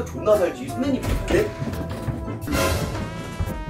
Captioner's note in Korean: 덜컥